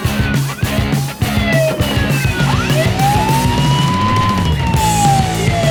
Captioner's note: siren